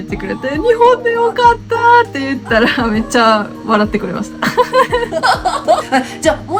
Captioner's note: haha